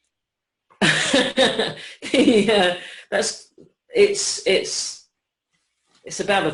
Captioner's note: laughs